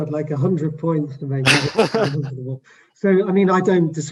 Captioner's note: laughs